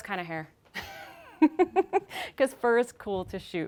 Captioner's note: laughing